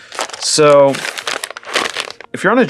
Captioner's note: package rustling